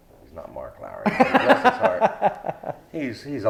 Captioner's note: laughs